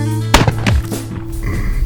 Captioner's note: gunshot